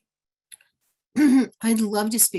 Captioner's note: clearing throat